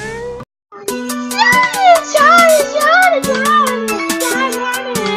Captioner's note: chattering